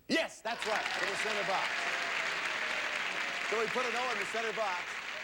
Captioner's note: audience applauding